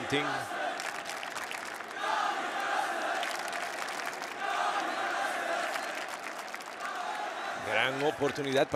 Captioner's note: applause